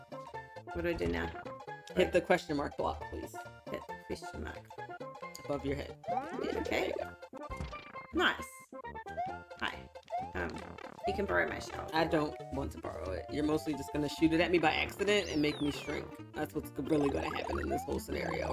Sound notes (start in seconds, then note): none